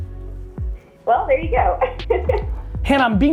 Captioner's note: laughs